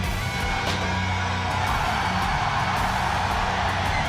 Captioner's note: crowd cheering